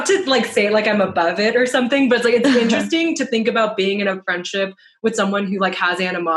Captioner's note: laughter